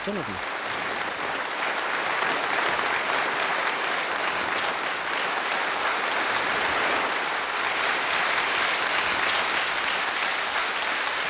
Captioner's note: applause